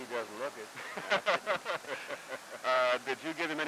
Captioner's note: laughter